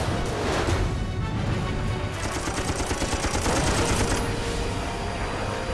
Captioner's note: tense music playing; gunfire